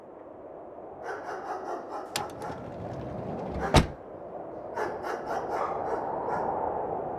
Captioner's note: dog barking